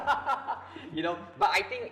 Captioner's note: both laughing